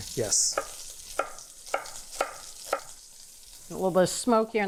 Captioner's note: pan sizzling